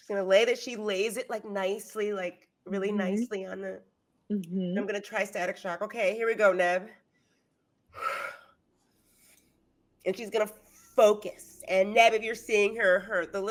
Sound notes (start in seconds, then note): 8.0 sighing